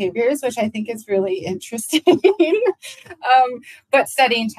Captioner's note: laughs